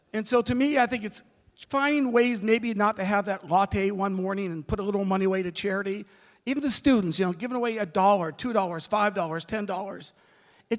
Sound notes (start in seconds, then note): none